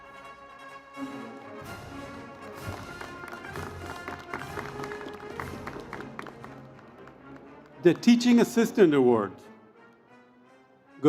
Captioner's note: cheers and Applause